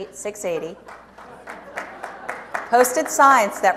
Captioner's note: audience applauds